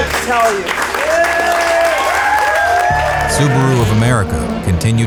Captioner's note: crowd applause